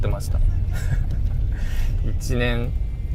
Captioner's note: laughs